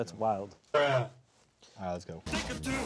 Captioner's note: distorted Voice